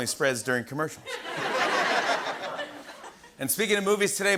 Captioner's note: laughter